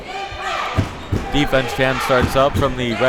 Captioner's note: crowd chanting defense